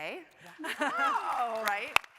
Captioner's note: panelists cheering